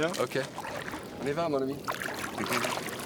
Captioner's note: speaking French